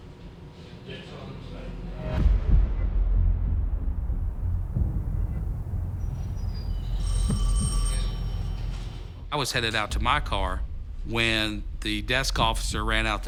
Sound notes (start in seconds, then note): 1.7 ominous music playing; 7.0 phone ringing